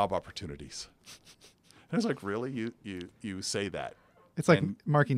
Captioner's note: laugh